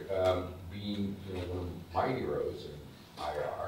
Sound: speaking faintly

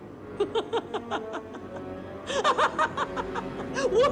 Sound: laughing

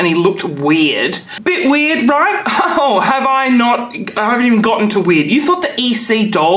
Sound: laughs

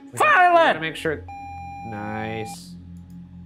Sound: video game screen beeping

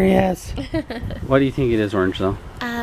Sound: laughing

